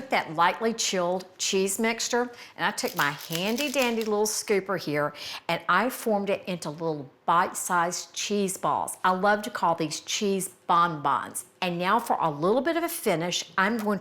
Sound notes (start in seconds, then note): 2.9 scooper rattling